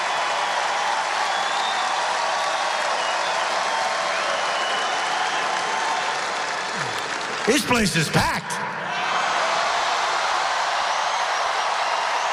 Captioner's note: applause